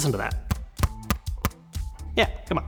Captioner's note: kickstand thunks